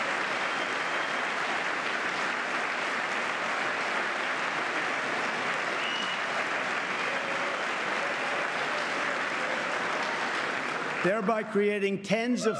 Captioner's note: applause